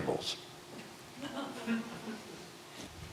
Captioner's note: scattered laughter